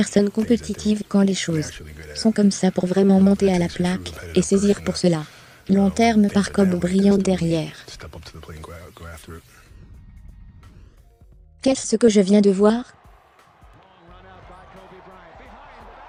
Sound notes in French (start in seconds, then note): 12.5 acclamations de la foule